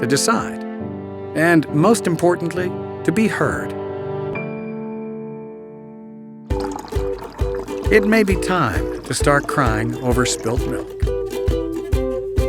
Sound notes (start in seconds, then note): 6.5 milk splashes